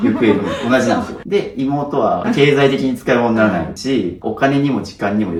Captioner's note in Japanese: 笑い